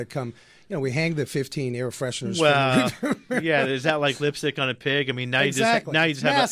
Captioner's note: laughs